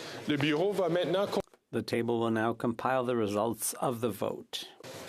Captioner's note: speaking French